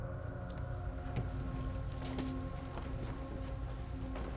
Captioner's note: suspenseful music; footsteps tapping